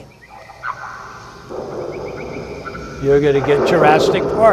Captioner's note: animal sounds